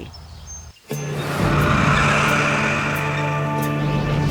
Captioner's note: tractor engine